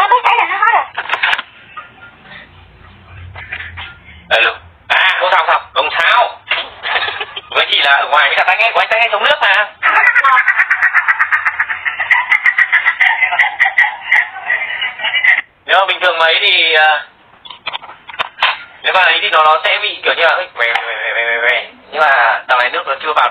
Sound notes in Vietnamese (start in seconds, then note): 9.8 Tiếng cười